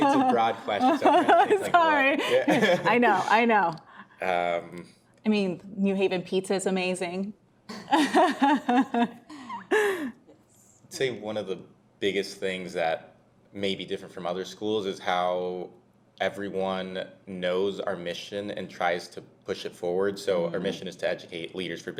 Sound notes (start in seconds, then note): 7.7 laughs